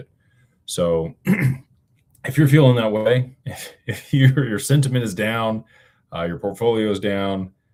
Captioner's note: clears throat